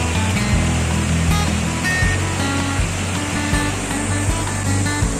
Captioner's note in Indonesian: suara sungai deras